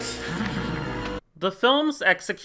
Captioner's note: chuckles